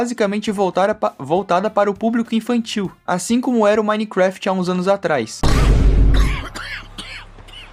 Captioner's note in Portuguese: tosse